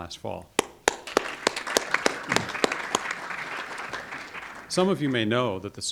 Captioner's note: audience applauding